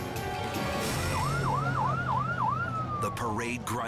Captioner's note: sirens blare